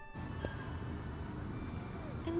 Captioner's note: elevator noises